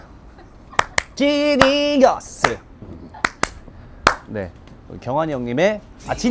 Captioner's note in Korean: 짝짝 짝짝